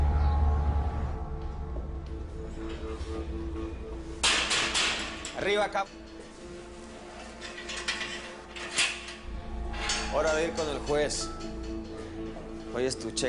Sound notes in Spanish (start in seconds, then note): 4.2 Ruido al golpear reja